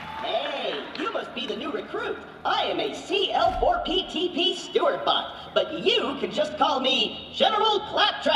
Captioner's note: cheers and applause